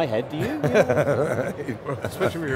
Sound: men laugh

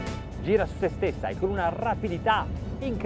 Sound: speaking in foreign language

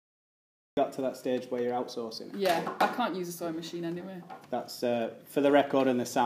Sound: camera clunk

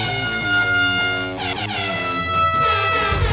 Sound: air horn sounds

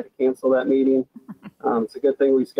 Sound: woman laughing

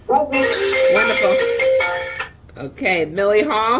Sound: phone ringing

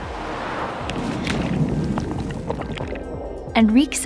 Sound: water bubbling

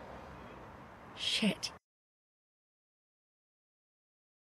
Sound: whispered

